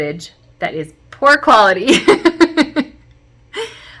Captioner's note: chuckle